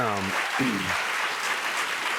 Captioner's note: clears throat; cheers and applause